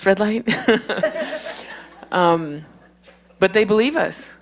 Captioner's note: laughter